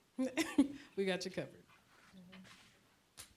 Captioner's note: chuckling